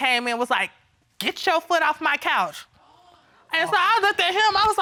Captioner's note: audience gasping